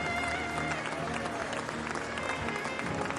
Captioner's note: audience cheering, applauding